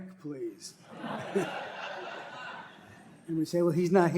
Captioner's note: laughter